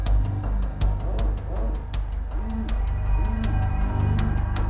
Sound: phone vibrates

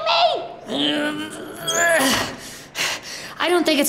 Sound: grunts

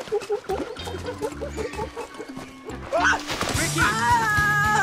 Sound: imitates Cooper; Rikki makes monkey noises; Sam chuckles

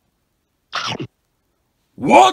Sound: nom nom nom

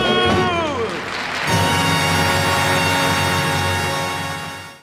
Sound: audience applauding

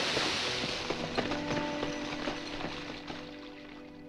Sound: none

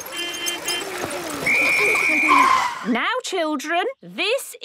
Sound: whistle blowing

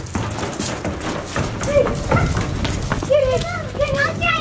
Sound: footsteps thumping

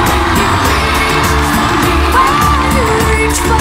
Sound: audience cheers and screams

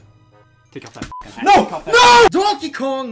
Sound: beep

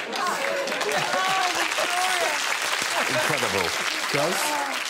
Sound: audience applauding; audience laughing

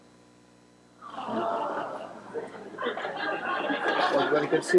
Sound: audience murmurs and laughs

